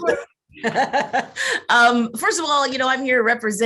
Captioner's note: chuckles